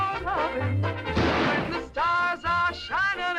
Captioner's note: gunshot